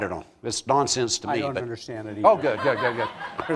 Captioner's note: laughter